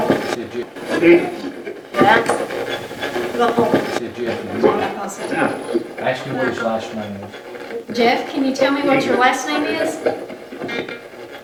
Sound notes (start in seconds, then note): 0.0 radio scratching; 0.7 radio voices